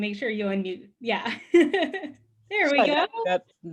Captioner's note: laughs